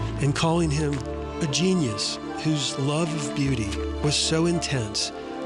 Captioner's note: forest floor crunching